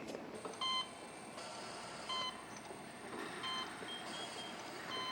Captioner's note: machines beeping